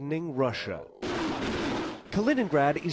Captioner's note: explosions